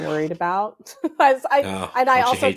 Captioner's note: laughs